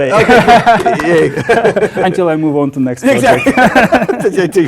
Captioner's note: laugh; applause